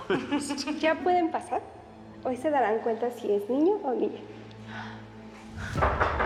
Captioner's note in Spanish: risas